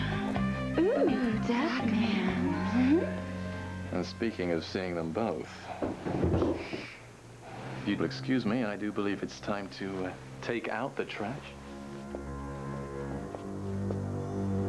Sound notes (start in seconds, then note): 5.8 bumping